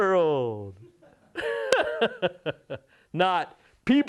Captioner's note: laughter